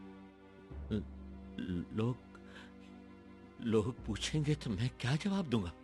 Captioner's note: none